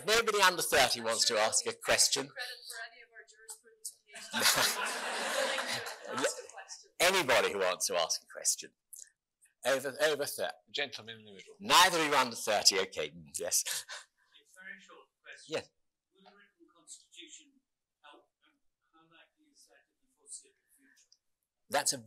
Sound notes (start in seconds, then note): 4.2 laughing